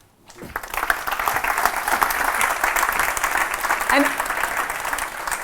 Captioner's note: applause